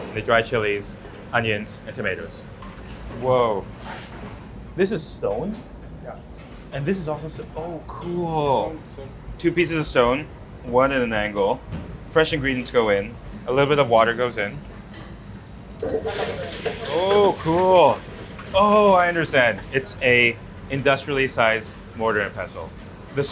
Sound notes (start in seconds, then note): 7.5 chef speaks faintly; 15.8 machine knocks